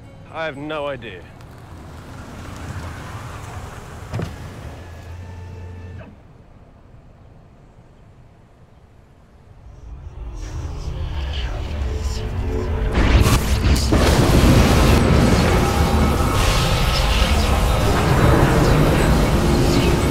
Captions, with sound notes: MITCH:>> I have no idea. [CAR SLOWING DOWN] [TIME VORTEX SOUNDS]